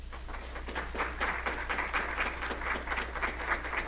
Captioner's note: applause